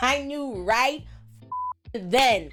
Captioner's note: beep